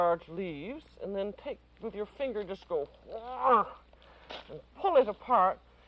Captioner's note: grunts